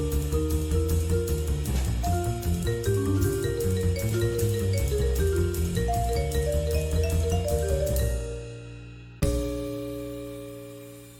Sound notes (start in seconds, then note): none